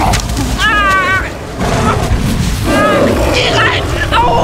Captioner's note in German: Brüllen, Schreie